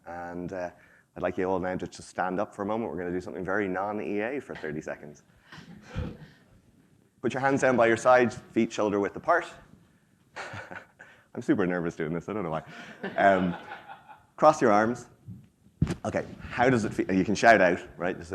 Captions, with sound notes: And I'd like you all now to stand up for a moment. We're gonna do something very non-EA for 30 seconds. Put your hands down by your side, feet shoulder width the part. (chuckles) I'm super nervous doing this, I don't know why. (attendees laugh) Cross your arms. Okay, how does it feel? You can shout out, right?